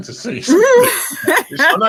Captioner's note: laughing